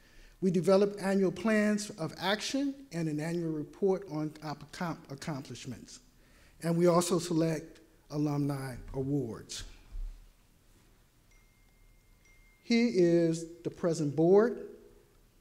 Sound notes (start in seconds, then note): 11.3 notification dings